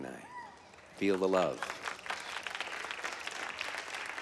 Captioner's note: light clapping